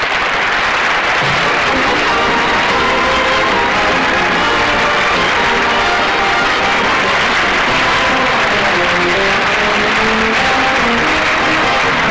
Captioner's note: audience Applauding